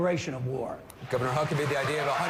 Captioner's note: applause